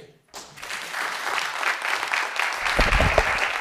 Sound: applause

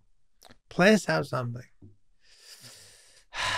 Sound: exhaling

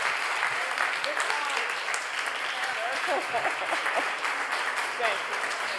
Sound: laughing

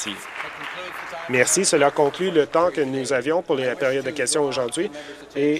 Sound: applause

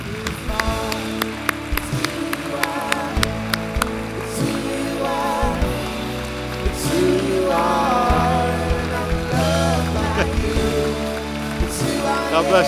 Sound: applause

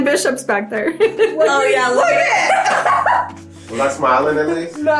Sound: laughing

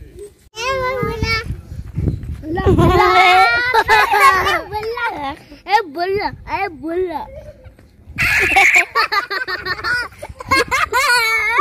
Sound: children laughing when I was chasing a baby Lamb

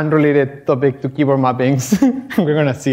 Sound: chuckles

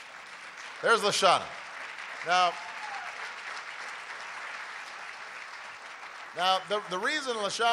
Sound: applause

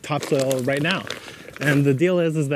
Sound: bag crinkles

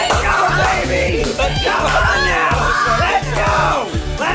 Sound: cheering

